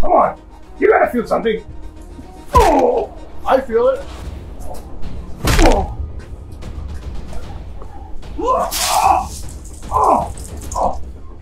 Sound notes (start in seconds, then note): 8.3 Billy Butcher grunts; 8.6 leaves rustling